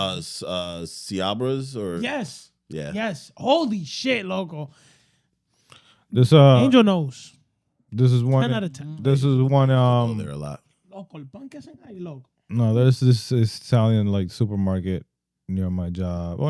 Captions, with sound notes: Siabras or-- Yes, yes, holy shit, Loco. Angel knows. This is one-- 10 out of 10. This is one-- Oh, they're a lot. Loco, (Speaking In Foreign Language) No, this is Italian supermarket near my job.